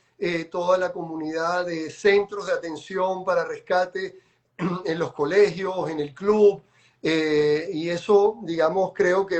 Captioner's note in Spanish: carraspeo